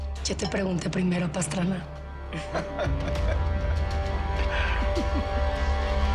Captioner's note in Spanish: Risas